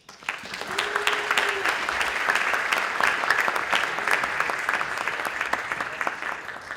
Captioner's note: audience applauding and cheering